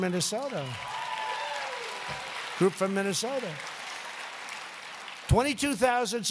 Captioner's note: applause